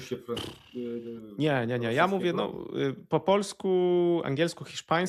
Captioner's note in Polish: parsknięcie